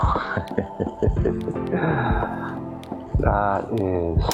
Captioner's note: laughs